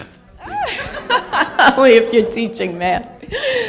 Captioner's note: laughter